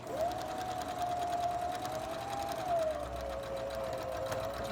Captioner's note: sewing machine hums